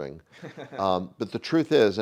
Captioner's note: chuckles